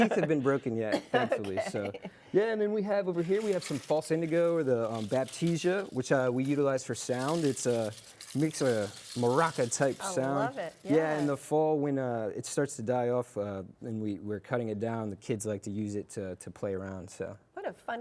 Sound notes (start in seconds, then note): 0.0 laughing